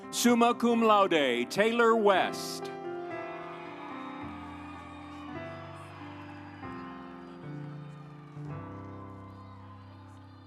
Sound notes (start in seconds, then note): 2.7 audience cheering; 3.5 instrumental music